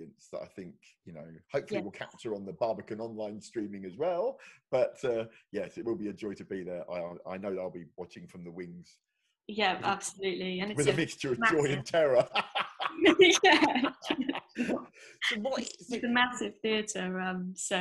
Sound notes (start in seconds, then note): 11.4 both laugh